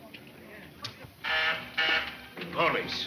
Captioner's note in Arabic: صوت صفارة الإنذار